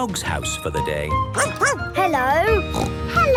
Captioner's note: barking; snorting